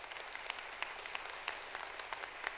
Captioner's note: applause